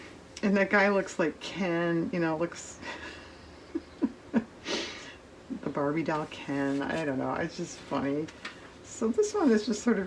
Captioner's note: laughs